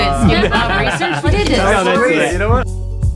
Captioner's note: everyone laughing